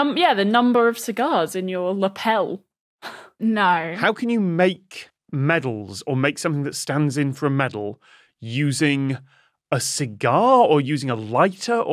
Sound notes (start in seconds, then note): 3.0 scoffs